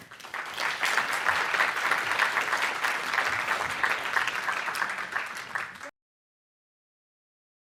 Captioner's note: applause